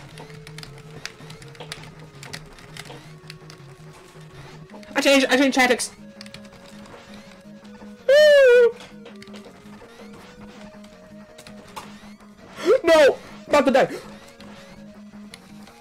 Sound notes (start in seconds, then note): 12.5 le gasp